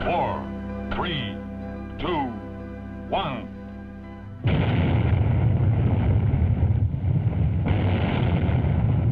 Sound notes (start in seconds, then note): 4.4 explosion booms